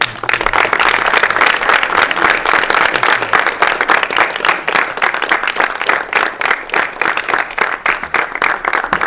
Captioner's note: applause